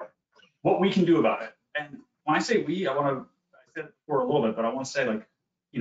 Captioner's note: audio lagging